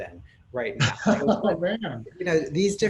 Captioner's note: laughs